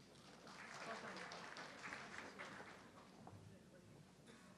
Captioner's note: audience clapping